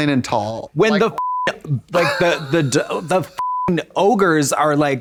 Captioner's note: beep